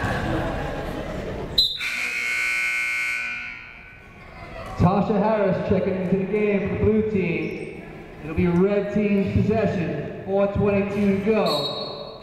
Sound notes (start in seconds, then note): 1.6 whistle blowing; 1.6 buzzer sounding; 9.2 whistle blowing